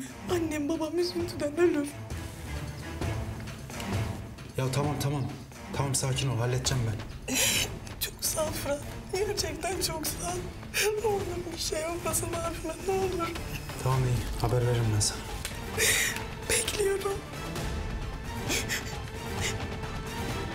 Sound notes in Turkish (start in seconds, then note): 19.3 Ağlıyor